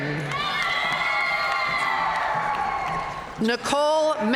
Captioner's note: audience cheering and applauding